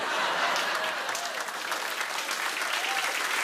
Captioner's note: cheers and applause